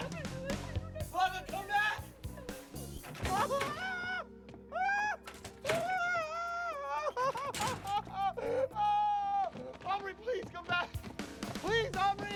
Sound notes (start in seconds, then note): 3.3 wailing